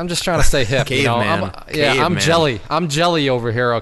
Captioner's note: snickering